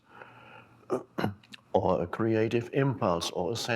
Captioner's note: clears throat